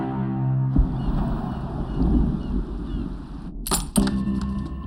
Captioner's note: birds chirping